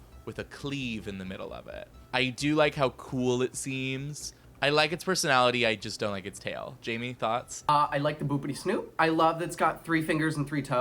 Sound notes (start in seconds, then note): none